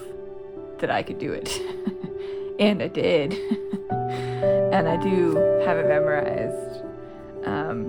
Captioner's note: laugh